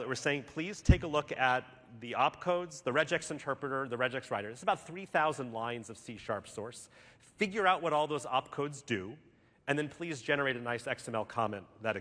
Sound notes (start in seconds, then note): none